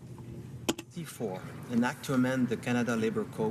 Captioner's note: speaking French